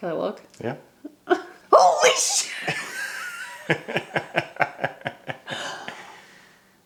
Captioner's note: laughs